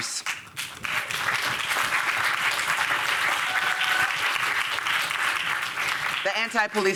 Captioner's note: applause